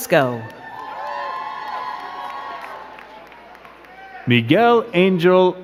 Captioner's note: crowd cheering and clapping